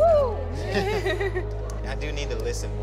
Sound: laughing

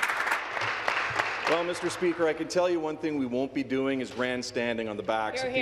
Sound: applause

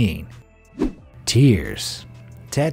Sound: air whooshing

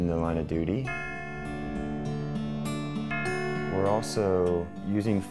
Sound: bell ringing

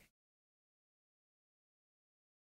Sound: pause

